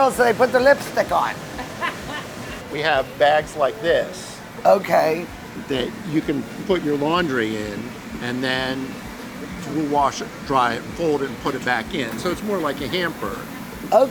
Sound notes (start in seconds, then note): 1.5 laughs